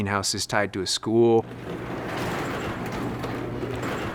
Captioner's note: door rattling